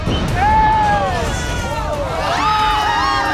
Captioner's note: family murmuring; fire whooshes; family yells; family shrieks